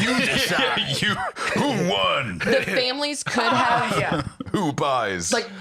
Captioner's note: laughs